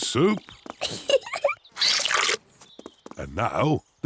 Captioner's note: giggles